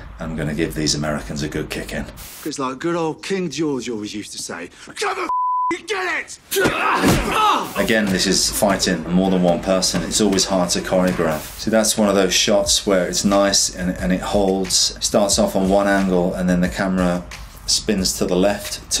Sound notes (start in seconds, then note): 2.2 air whooshes; 6.6 man groans